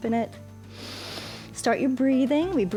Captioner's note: inhales